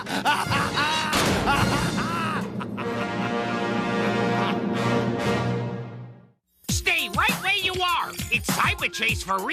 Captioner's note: wild laughter